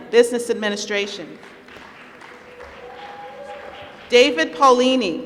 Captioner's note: applause